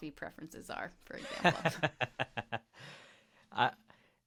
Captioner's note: laughing